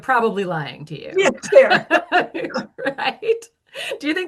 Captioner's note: laughs